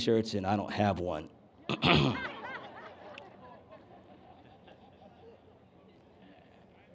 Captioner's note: laughter